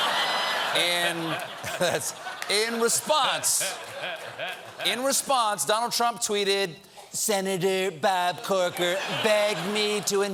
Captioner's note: laughter